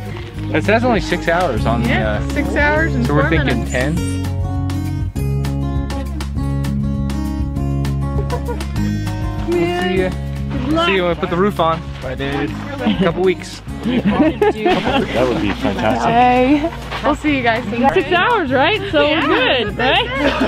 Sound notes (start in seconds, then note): 13.8 laughter